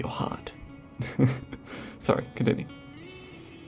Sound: laughs

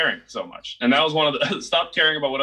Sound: laughs

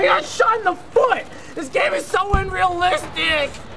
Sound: groans

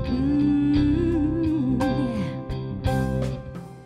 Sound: humming

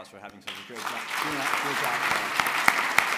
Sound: applause

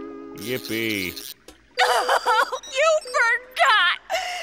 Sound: crying

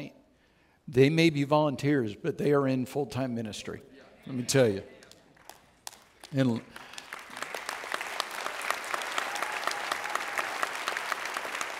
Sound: audience Cheers

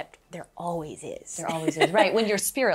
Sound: laughs

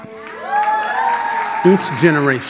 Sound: audience applause

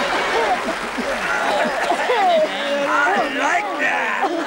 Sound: applause; choking

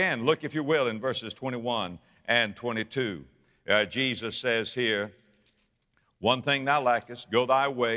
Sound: pages rustling

